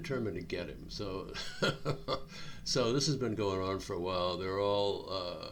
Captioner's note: chuckling